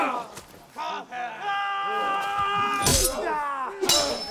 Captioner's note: all cheering; swords clanging